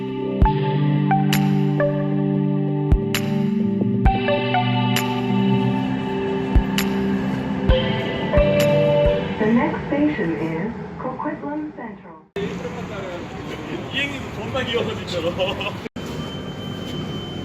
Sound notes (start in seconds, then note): 0.0 intro Music; 8.2 next station chime